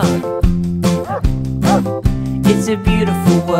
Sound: animal sound dog bark

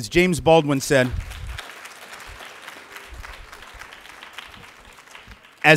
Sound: light clapping

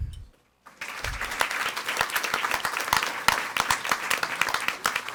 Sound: audience applauding

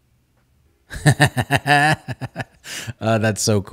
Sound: laughing

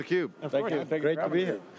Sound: group speaking together

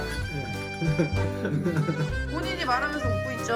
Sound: laughing

